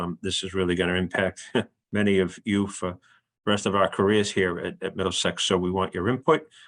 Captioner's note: laugh